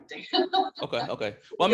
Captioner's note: laughing